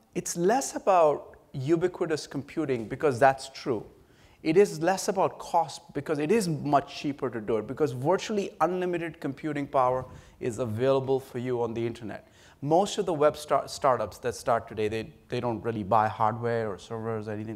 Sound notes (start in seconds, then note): none